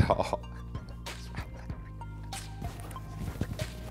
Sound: laughs

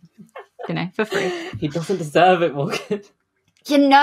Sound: laughs

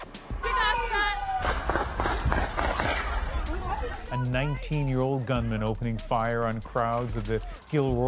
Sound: gunshots

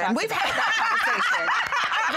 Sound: laughing

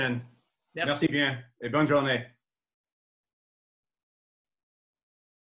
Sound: speaks in foreign language

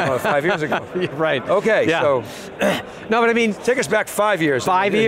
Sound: laughs

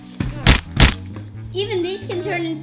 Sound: smacking noises

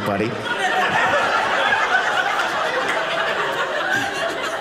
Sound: audience laughing

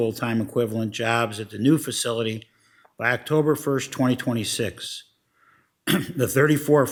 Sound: clears throat

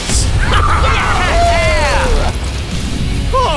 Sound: all whooping

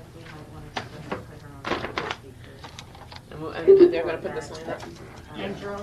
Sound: people speaking in the background

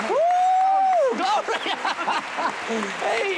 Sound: laughter

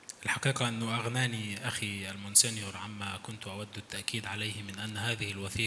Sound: speaks in foreign language

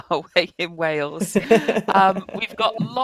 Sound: laughs

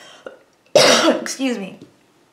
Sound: coughing

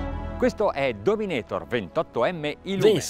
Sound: speaking in Italian

